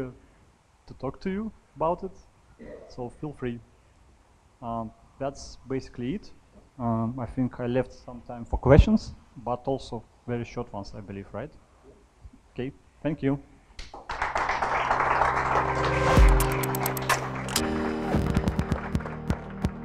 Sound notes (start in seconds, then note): 18.1 applause